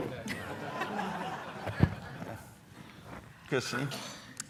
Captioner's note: audience laughing